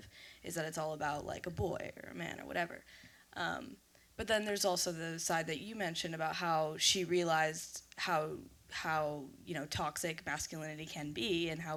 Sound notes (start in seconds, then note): none